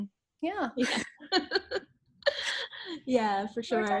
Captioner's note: laughs